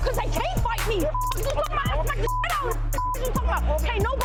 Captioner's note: beep; beep